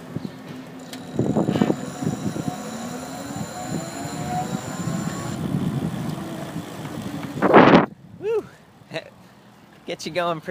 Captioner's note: motor whirring